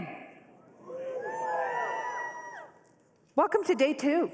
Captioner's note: cheering